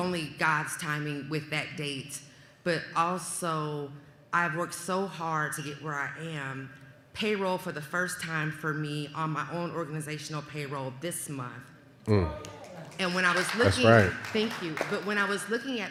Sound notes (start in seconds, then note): 12.4 applause